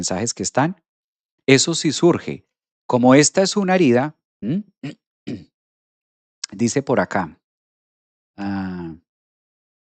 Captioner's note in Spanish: carraspeo